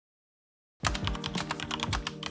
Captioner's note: typing